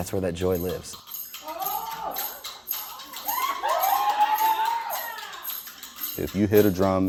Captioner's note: crowd cheering, music playing